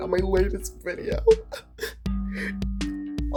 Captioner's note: sobs